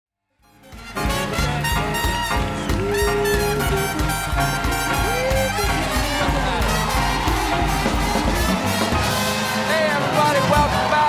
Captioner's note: cheers and applause